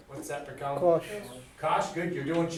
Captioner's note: voiceover